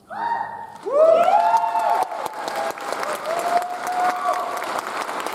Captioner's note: audience cheers and applauds